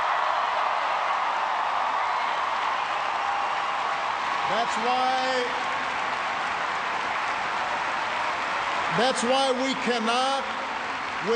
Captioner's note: cheers and applause